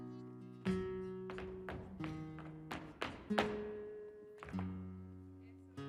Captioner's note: shoes rhythmically tapping